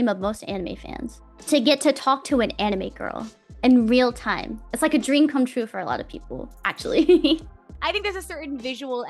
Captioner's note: laughs